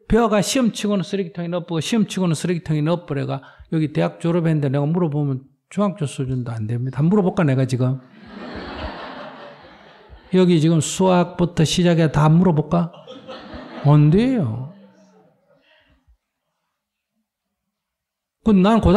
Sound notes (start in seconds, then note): 8.1 laughter; 12.9 audience Laughter